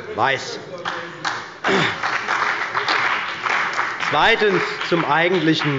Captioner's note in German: Beifall bei der CDU und dem BÜNDNIS 90/DIE GRÜNEN